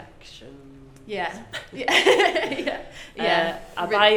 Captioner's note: laughing